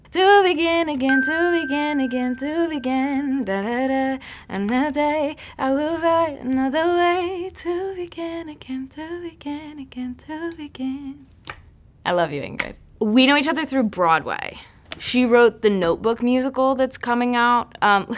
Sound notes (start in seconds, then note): 1.1 ding